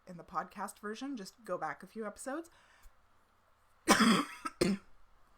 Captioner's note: coughs